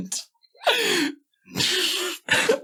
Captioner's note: laughing